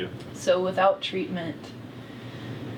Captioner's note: sighs